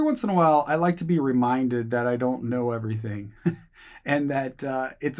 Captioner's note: chuckles